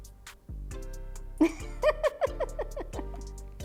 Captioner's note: laughs